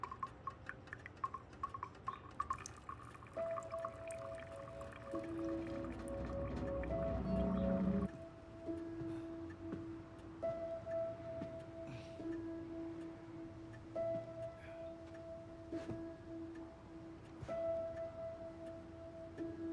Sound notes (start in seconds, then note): 0.0 water dripping; 3.5 subdued music; 5.8 pipes groan